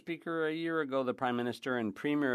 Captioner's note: speaking French